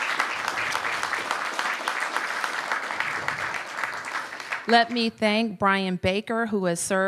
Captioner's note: applause